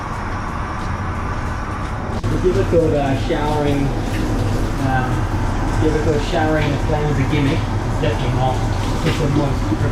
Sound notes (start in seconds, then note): 2.2 water pouring drowns sound